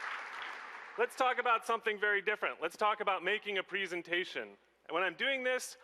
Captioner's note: applause